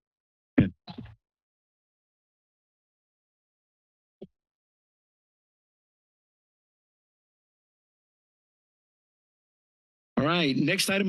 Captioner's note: microphone thump noise; silence